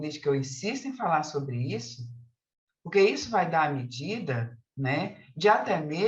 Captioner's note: continues speaking in Portuguese